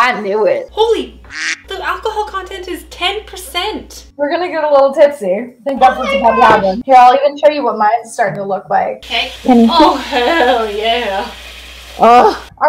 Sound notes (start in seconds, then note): 1.3 duck quacks